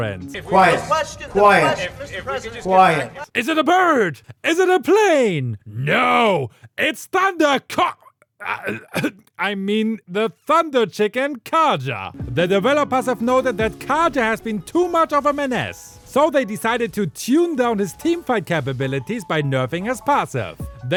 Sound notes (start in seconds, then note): 7.7 cough cough